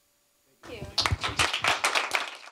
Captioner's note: applause